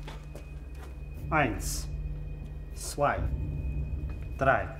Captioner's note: speaking in German